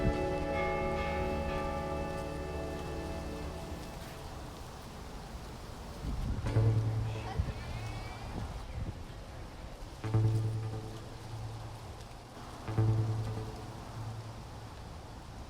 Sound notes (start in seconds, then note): 6.4 somber music; 6.9 bystanders chattering